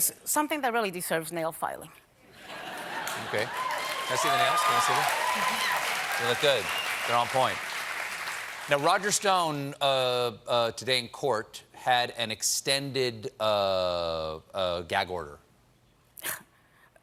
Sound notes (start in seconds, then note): 9.6 applause